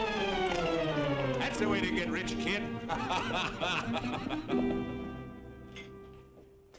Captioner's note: laughs